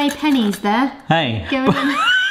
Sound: laughs

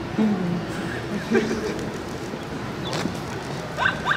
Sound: hehehe

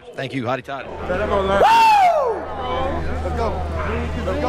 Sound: screaming

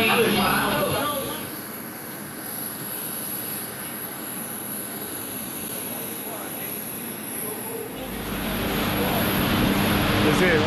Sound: airplane engine noise

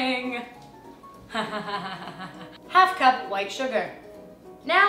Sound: ha ha ha ha ha ha

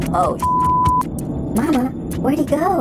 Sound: beep

